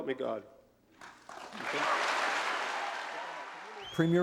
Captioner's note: audience applauding